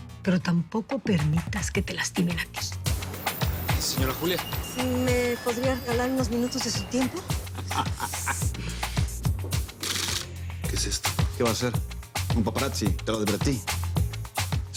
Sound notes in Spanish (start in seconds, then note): 7.4 Risas; 9.8 Clic de la cámara